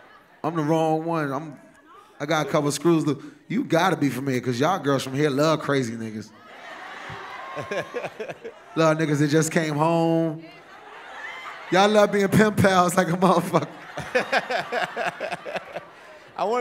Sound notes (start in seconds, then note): 6.3 cheering; 14.0 laughter